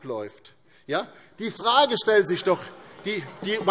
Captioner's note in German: Heiterkeit